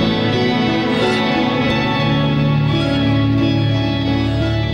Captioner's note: goose squawking